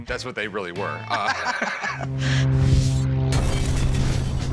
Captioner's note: laughter